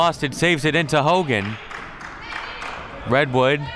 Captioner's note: clapping